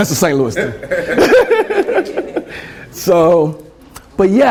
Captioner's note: laughter